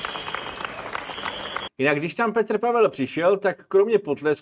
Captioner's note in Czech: potlesk